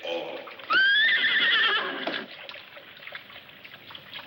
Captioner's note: horses whinny